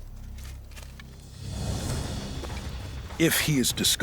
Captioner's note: grass crunches